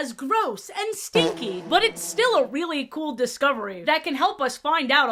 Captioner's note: fart reverb sfx